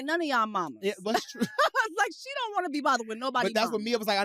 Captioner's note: laughs